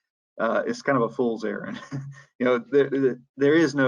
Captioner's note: laughs